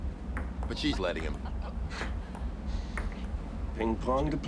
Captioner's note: laughs